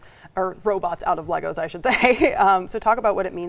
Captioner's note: laughs